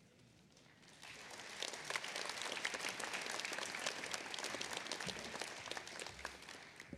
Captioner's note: applause